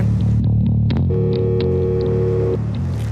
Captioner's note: dial tone